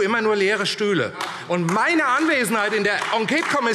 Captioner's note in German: Beifall AfD